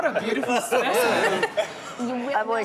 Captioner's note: laughs